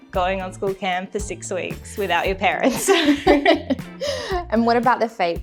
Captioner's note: laughing